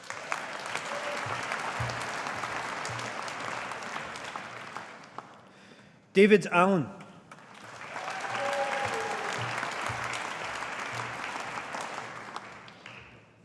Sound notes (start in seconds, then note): 0.0 audience applauding; 7.3 audience applauding